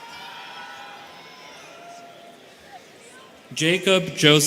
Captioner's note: students cheering